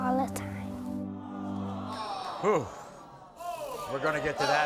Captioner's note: audience sighs